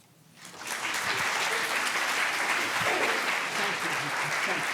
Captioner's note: applause